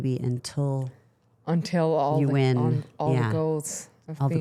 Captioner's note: none